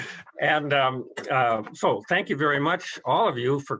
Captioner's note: chuckles